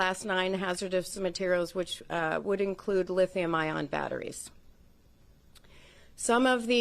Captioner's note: HABLA EN INGLéS